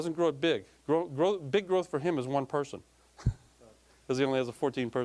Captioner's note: chuckling